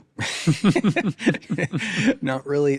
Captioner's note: both laughing